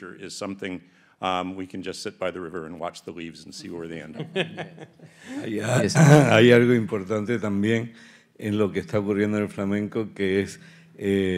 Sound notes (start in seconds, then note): 4.1 panelists laugh; 6.0 speaking in Spanish